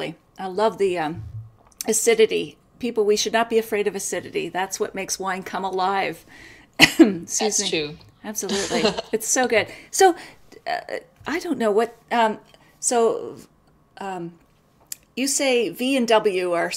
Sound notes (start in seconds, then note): 8.4 coughs